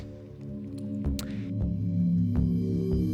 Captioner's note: gulps; suspenseful ambient music